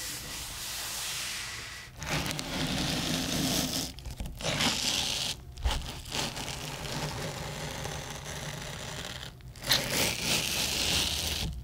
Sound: sounds of cutting a watermelon

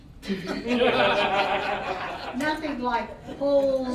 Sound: all laughing

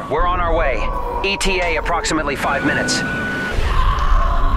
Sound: screams

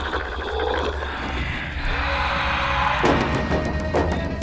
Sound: whisper

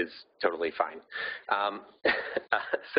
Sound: laughing

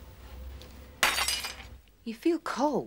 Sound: glass shattering

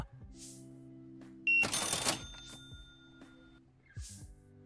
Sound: beeping

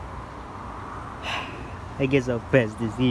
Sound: sigh

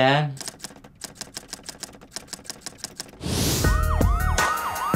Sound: typing

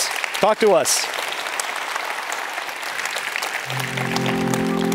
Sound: applause

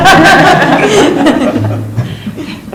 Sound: laughs

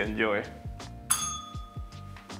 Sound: bell rings

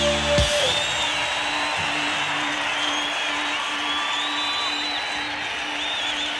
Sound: audience cheering and applauding

